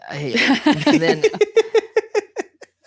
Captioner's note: laughing